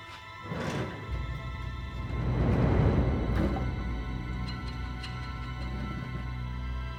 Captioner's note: drawer opens; dramatic music